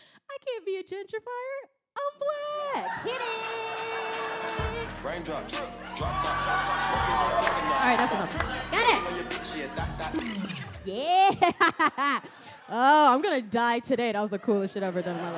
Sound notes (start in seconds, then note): 6.8 audience cheers